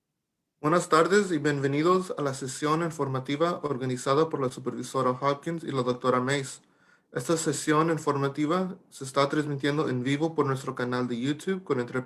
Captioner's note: talking in Spanish